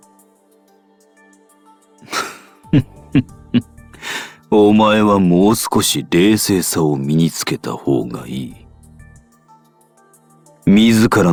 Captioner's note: chuckle